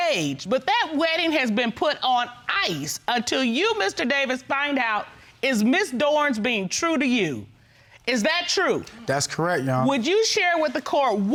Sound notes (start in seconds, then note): none